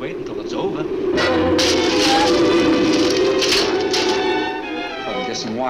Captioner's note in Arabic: صوت حطام